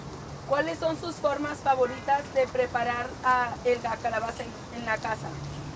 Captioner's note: translator speaks in Spanish